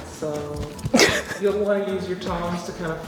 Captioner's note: laughing